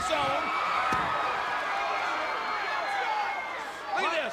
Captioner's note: audience cheering